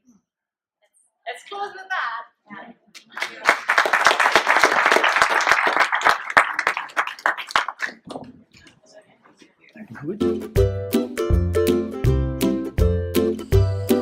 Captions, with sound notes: So, let's close with that! (audience applause) (upbeat guitar music)